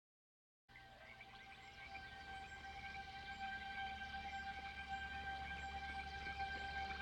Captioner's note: gentle music; birds chirping